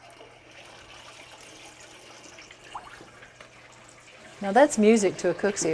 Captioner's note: pot bubbles